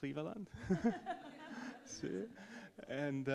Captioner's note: all laugh